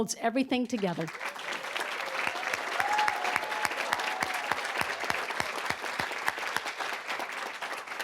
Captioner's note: cheering, applause; applause